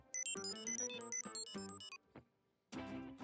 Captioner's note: beeping